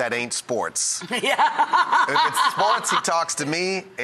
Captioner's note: laughs